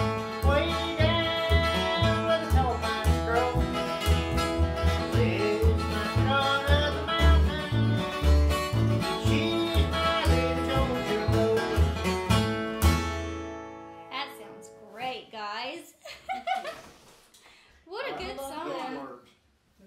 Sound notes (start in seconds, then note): 16.0 chuckling